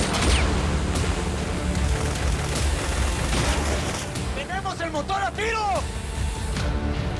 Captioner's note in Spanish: Disparos